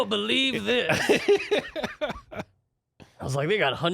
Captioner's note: laughing